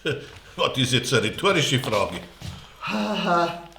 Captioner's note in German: lacht